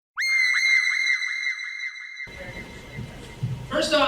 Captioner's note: person screams